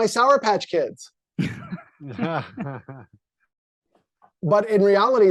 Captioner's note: laughing